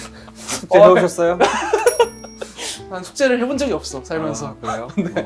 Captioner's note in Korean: 웃음